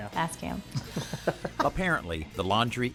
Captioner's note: both laugh